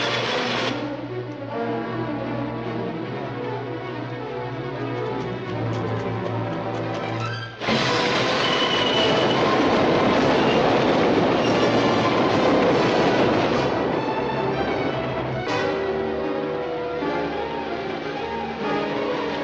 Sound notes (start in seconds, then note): 1.3 tense music; 7.6 train rumbling